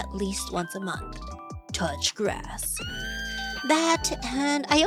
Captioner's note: scream